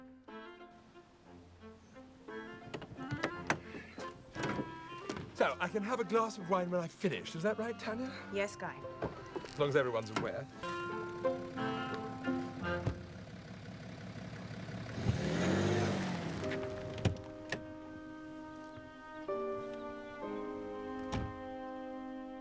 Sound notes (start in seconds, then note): 0.2 playful music; 11.6 engine rumbling; 11.6 playful music; 17.2 gentle music; 17.6 birds chirping